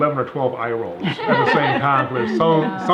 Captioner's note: ladies laughing